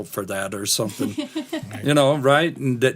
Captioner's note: laughter